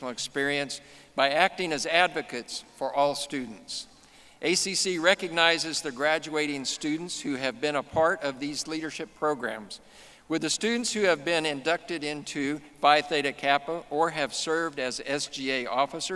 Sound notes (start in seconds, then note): none